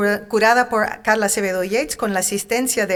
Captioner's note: speaking in Spanish